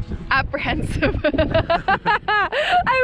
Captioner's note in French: rires